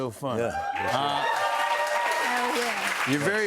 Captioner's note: cheers and applause